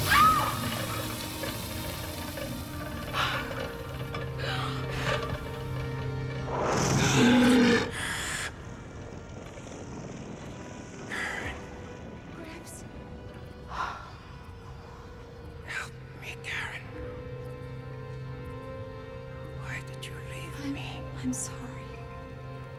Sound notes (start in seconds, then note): 0.0 Karen yelps; 0.2 door hisses; 7.2 roars